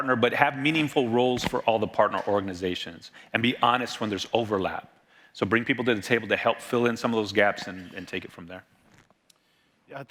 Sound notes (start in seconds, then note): none